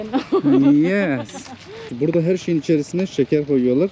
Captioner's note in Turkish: kahkaha